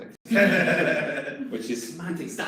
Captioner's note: everyone laughs